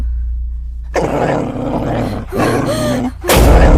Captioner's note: dog growling